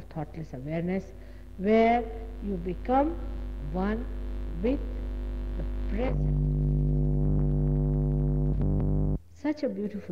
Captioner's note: noise in mp3